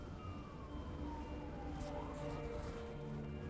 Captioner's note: sirens